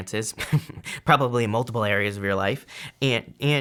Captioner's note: chuckles